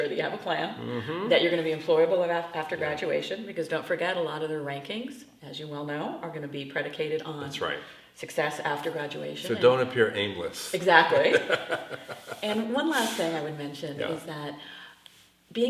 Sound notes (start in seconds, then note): 10.8 laughs